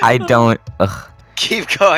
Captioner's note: sigh of disappointment